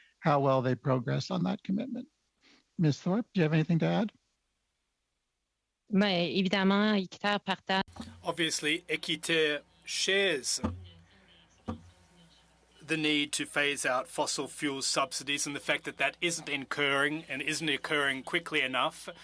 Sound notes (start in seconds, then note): 12.6 speaking French